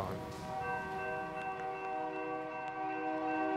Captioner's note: train whistles